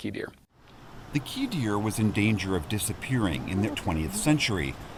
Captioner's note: voice-over